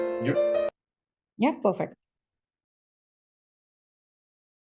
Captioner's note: music muted